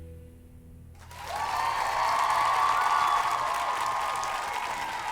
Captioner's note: cheers and applause